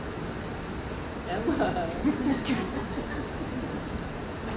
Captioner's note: laughs